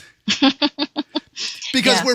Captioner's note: laugh